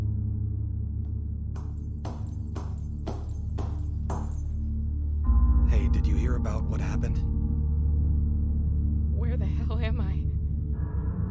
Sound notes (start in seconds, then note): 1.5 banging